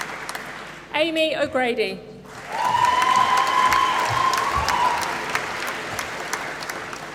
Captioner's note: applause